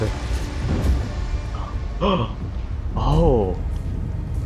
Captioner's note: gasps at fat man